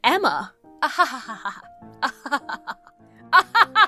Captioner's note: laughs disingenuously